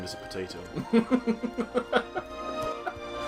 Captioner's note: laughs